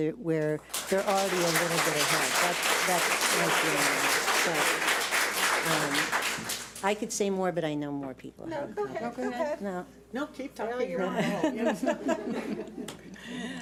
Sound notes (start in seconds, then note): 0.7 public applauding; 9.4 laughs